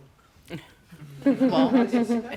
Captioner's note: everyone laughing